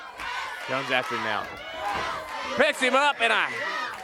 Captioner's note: crowd cheering